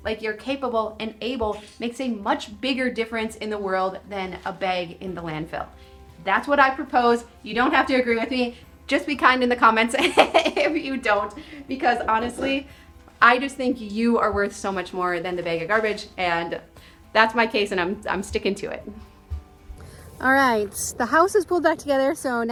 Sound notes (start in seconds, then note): 9.9 laughs